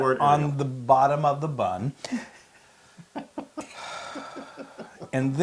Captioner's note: laugh